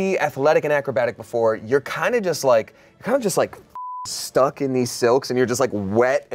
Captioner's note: beep